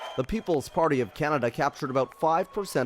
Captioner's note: applause